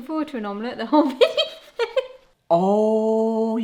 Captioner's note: laughs